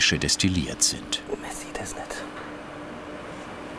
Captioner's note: quietly